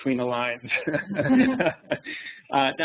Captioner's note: laughs